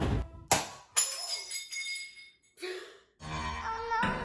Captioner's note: mug shatters